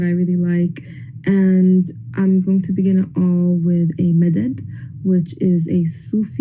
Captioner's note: non-english speech